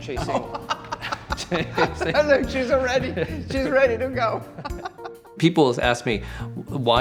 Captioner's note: laughs